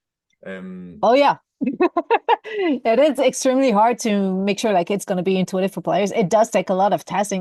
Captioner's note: laughs